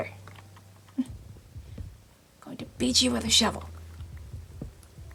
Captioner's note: laugh